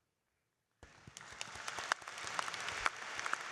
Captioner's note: applause